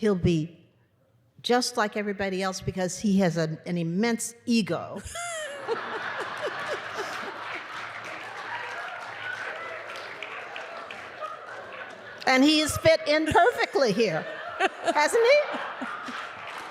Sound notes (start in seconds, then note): 5.6 applause